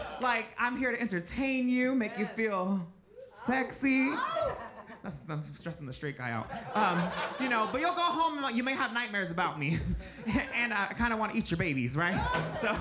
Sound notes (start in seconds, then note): 6.5 audience laughs